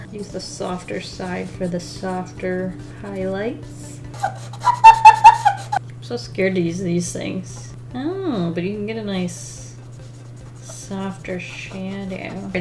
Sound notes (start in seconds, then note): 4.0 pencil squeaks loudly